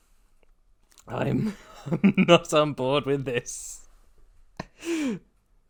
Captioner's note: laughing